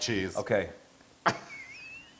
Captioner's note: laugh